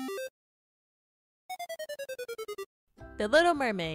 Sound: arcade level up sound; arcade defeated sound

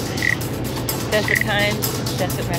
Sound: laughing

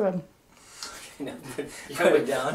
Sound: laughs

